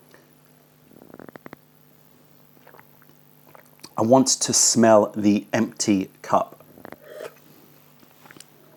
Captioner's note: sips tea